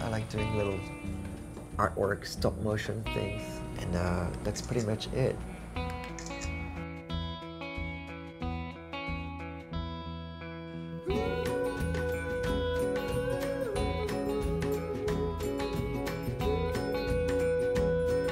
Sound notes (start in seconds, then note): 0.0 car engine rumbling; 6.1 camera clicks; 8.0 upbeat guitar music